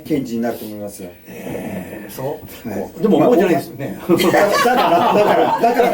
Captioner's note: laughs